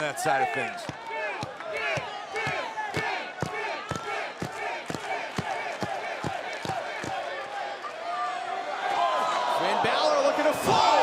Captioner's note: crowd chatter